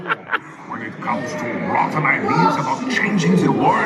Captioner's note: laughs; mutters